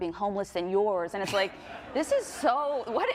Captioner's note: group laughing